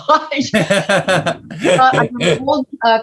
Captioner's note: laughs